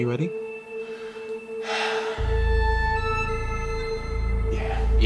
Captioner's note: sigh